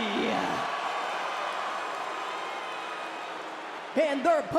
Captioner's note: crowd cheers